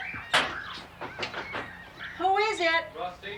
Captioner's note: knocking on door